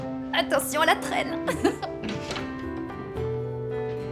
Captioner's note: laughing; soft music